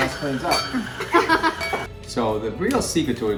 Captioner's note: laughing